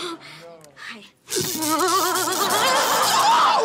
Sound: zaps

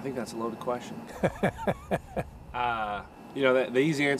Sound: laughs

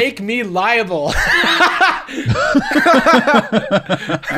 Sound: heavy laughter

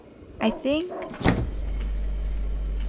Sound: fridge door opens

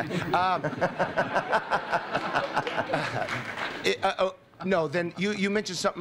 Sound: laughter

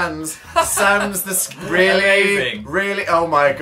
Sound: laughs

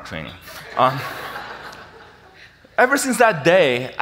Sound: audience laughs

